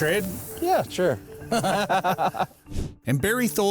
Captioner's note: both chuckle